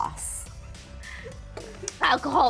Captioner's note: everyone laughing